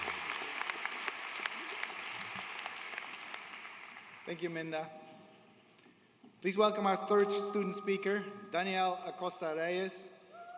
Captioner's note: applause